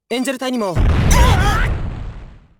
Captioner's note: panicked cry